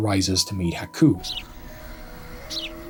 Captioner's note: birds chirping